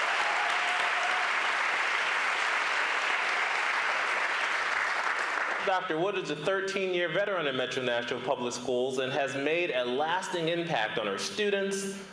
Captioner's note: applause